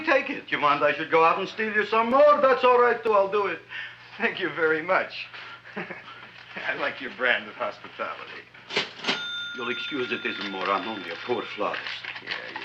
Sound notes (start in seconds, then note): 5.6 laughs; 8.7 cash register ringing